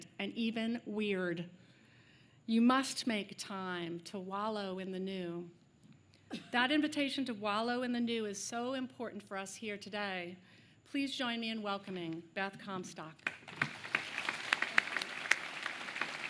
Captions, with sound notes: weird. You must make time to wallow in the new." That invitation to wallow in the new is so important for us here today. Please join me in welcoming Beth Comstock. [APPLAUSE]